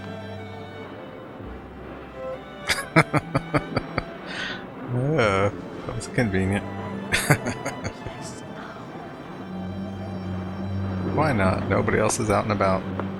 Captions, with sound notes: [Laughing] Oh. That was convenient. Why not? Nobody else is out and about.